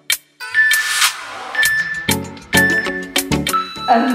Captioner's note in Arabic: المؤقت يصدر صوتا